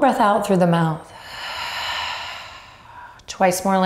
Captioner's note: exhales loudly